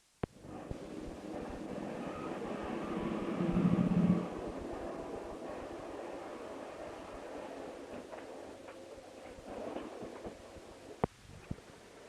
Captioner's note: sound of train moving